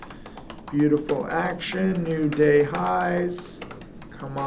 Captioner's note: typing